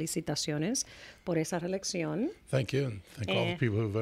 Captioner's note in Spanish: Hablando ingl\s